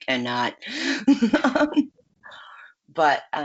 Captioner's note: laughs